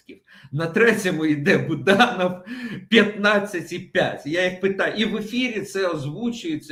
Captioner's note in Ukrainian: сміх